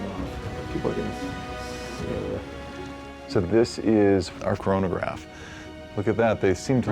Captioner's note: murmurs